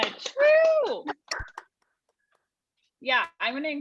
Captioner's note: audience cheering